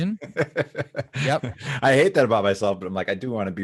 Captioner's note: laughs